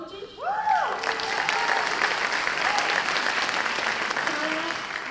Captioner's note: cheers and applause